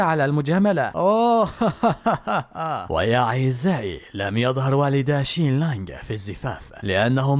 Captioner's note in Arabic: ضحك